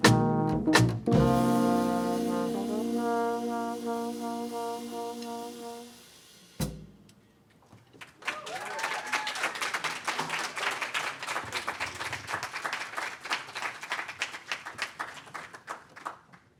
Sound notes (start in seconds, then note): 7.9 applause; 8.1 cheers